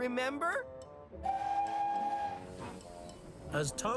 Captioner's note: toot!